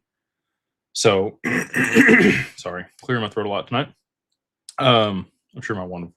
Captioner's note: cough and clears throat